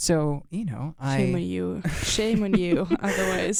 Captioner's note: laughs